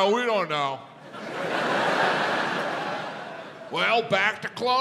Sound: audience laughs

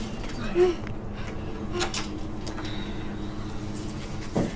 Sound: moaning

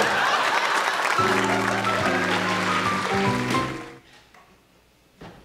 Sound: applause

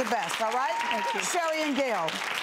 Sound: audience claps

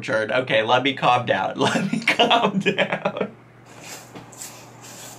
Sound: laughing

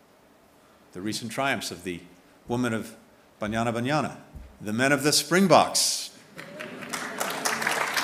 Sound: applause

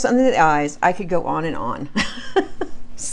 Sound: laughs

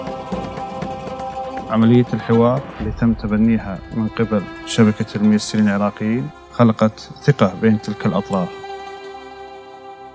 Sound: speaking Arabic

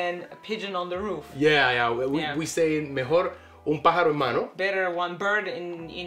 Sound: speaks Spanish

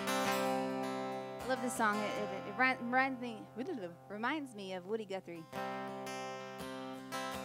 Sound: stammers

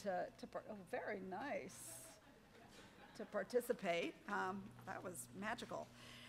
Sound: audience laughing

